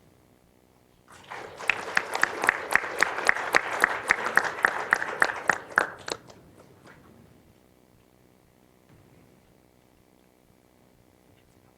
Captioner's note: applause